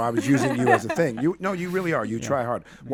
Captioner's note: group laughing